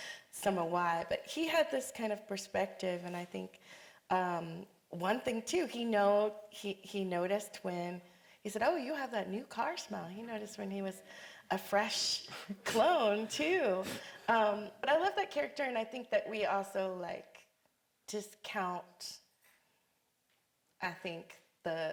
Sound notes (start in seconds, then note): none